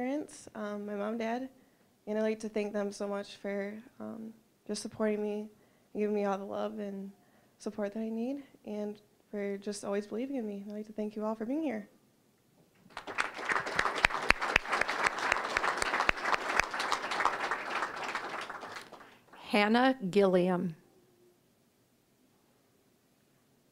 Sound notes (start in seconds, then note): 12.8 applause